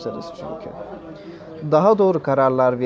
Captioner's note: crowd Noises